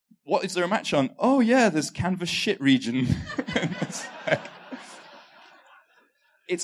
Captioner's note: laughter